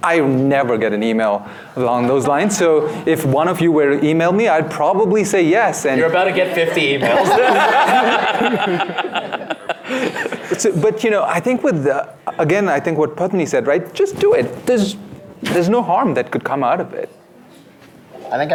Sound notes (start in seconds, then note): 6.6 laughs